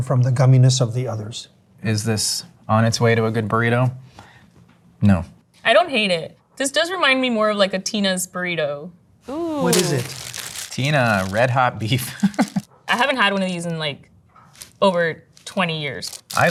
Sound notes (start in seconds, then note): 9.4 wrapper crunching; 12.0 laughs